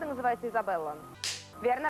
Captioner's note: Hikakin's handclap